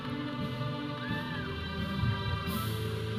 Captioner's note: audience cheering; processional music